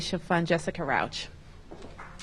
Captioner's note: applause